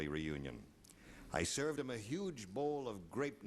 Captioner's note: none